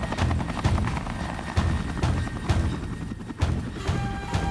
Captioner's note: dramatic music; helicopter thrumming